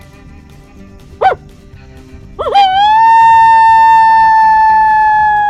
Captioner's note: high pitched animal call